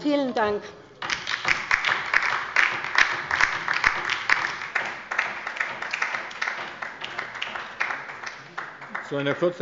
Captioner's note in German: Beifall bei der LINKEN - Zuruf von der CDU